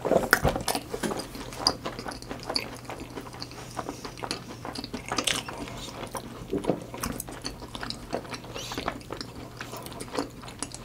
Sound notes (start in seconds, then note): 2.3 chewing